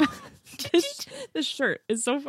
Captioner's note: laughs